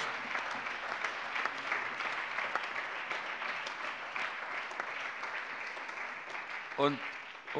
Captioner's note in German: Allgemeiner Beifall